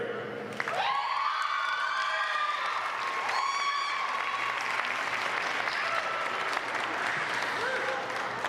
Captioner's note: applause